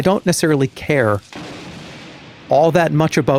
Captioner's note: thunder